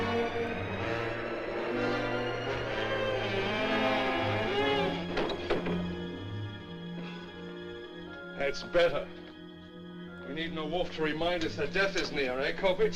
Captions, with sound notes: [Exhales] That's better. We need no wolf to remind us that death is near, eh, Koppich?